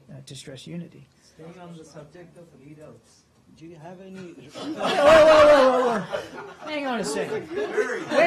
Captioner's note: laughter